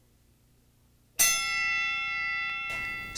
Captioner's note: bell rings